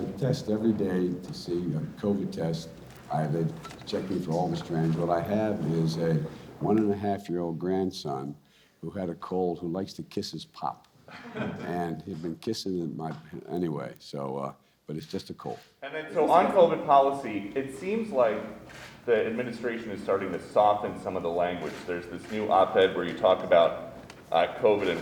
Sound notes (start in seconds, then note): 11.0 laughter